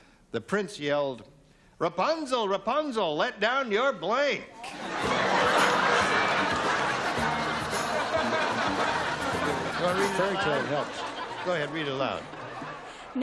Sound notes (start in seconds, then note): 4.6 laughter